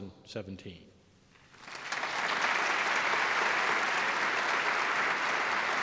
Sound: applause

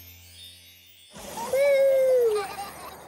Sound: giggles

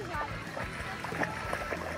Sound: water splashing

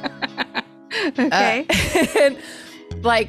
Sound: both laugh

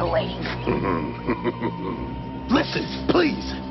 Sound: main Biker chuckles 6 times

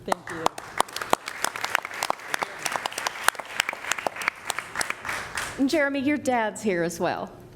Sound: applause

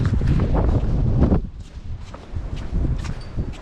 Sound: A lot of wind

